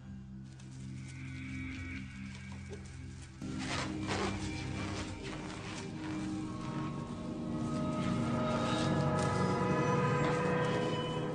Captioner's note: plastic cover rappelling sound